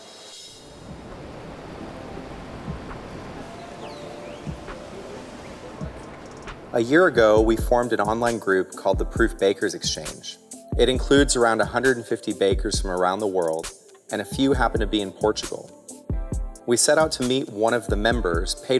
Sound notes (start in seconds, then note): 0.6 traffic humming; 3.8 birds chirping